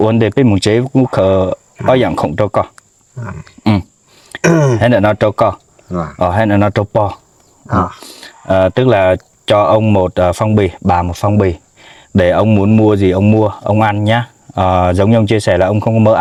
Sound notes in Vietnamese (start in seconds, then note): 4.3 hắng giọng